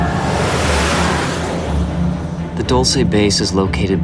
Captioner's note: whooshing